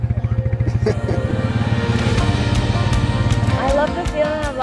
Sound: laughs; lighthearted guitar music

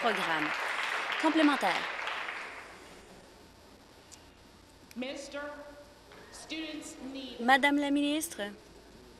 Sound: applause

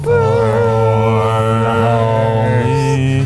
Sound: all humming

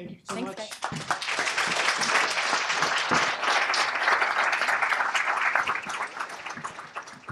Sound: applause

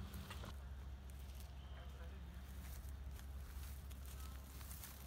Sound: a continual hum of farm equipment; footsteps through grain stubble

